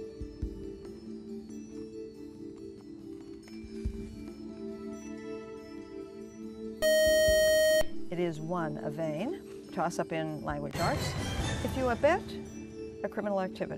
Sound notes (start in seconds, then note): 5.3 beeping